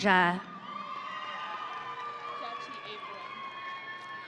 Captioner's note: audience cheering